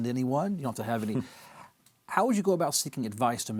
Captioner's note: laughs